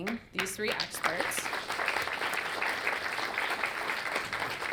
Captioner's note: audience clapping